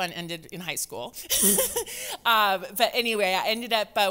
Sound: laughs

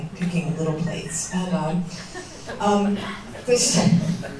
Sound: soft laughter

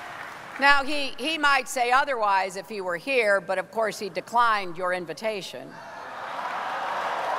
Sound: applause

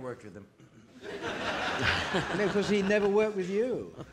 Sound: audience laughing

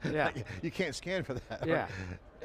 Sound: laughs

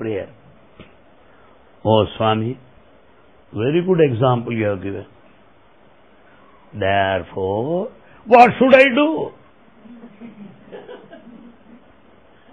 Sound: laughter

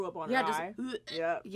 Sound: gagging sounds

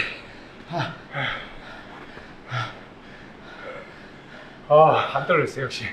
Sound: both are gasping

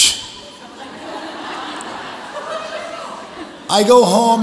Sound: audience laughs

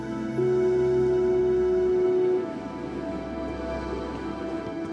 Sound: foghorn

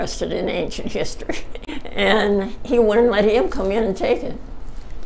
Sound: chuckles

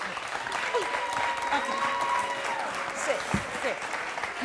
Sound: audience clapping

